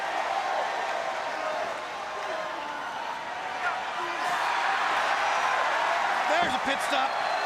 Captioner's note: crowd cheering